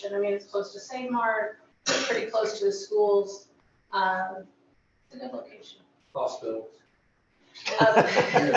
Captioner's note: laughter